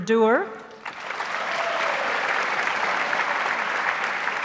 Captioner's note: audience applauds